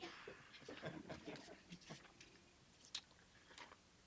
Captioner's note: scattered chuckling